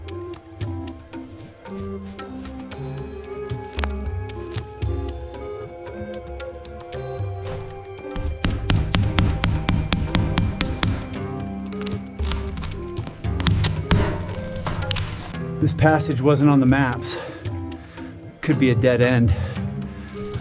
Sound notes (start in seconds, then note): 15.1 hammering; 20.1 instrumental music